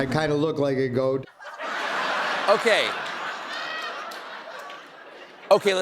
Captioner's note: laughter